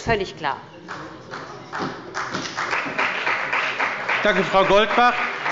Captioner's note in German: Beifall bei dem BÜNDNIS 90/DIE GRÜNEN und der CDU